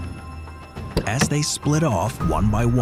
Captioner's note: car door clacks